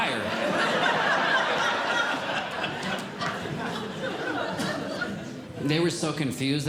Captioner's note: audience Laughing